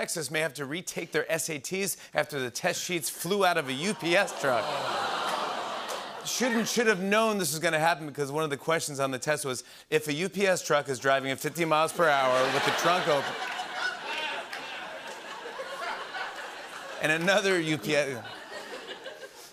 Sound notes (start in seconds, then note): 3.9 audience groans; 15.1 laughter